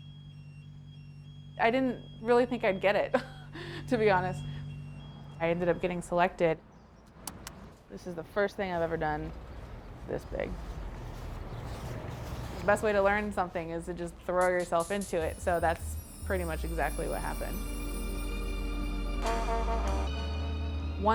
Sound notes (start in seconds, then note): 3.1 chuckling; 17.8 moody music